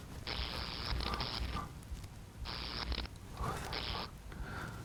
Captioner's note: light buzzes